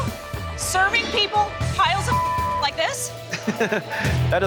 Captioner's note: beep; laughs